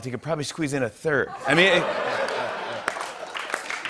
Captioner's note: laughter; applause